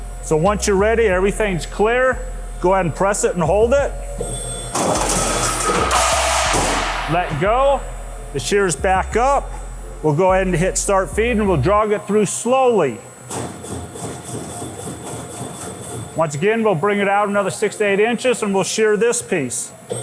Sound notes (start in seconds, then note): 4.7 metal clanking; 13.2 machine clanking